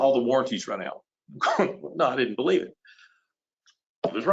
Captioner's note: laughs